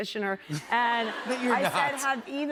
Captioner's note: laughter